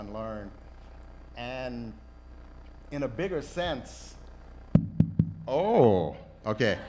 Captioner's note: taps microphone; laughter